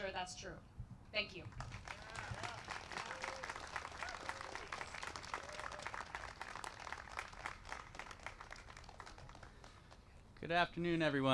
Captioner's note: applause